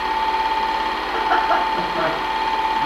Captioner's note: laughing